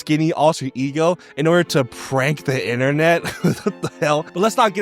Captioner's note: laughs